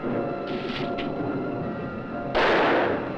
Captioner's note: rustling; gunshot fires